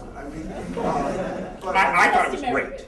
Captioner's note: laughter